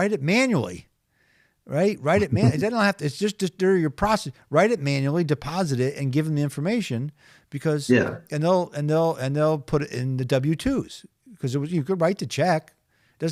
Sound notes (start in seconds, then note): 2.2 chuckling